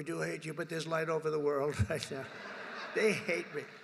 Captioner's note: laughter